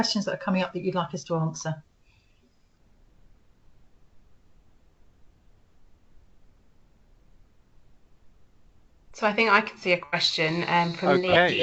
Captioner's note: silence